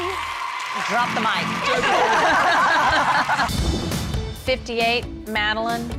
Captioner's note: coaches laughing